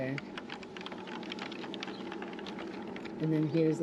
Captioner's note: birds chirping